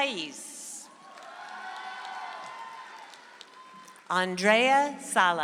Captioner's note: audience applauds